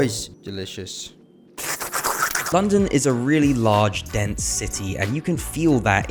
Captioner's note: normal tea drinking noises